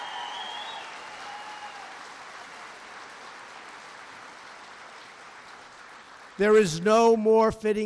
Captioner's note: applause